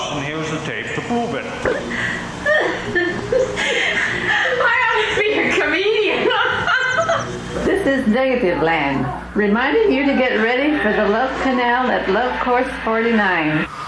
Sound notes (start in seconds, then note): 6.0 laughing